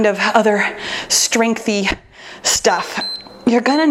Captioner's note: timer beeps